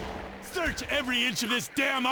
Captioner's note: gun firing